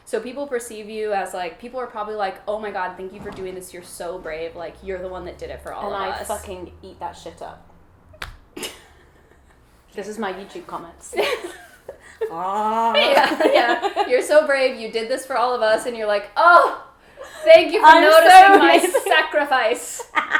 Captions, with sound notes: So people are probably like, "Oh my god, thank you "for doing this, you're so brave, "you're the one that did it for all of us." - And I fucking eat that shit up. (laughs) This is my YouTube comments. (moans) - You're so brave. You did this for all of us. And you're like, "Thank you for noticing my sacrifice!" - I'm so amazing.